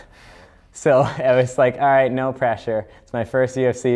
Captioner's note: laughs